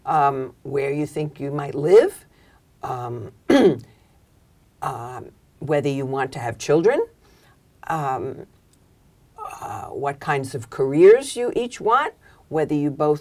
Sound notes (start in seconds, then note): 3.4 cough